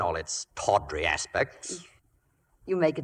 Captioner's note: none